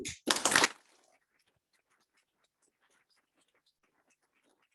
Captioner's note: audience clapping